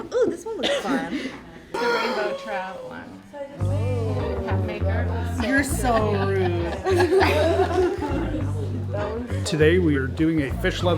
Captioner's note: gasp